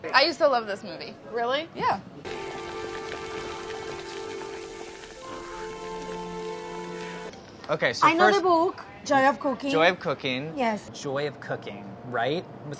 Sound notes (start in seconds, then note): 4.2 water boiling